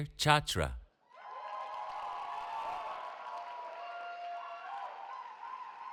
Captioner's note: cheering